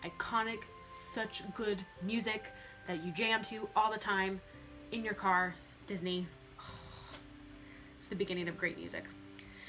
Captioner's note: sigh